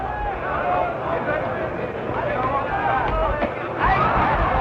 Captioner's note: crowd cheers